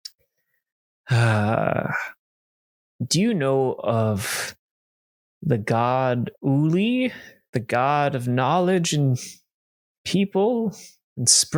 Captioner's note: sighs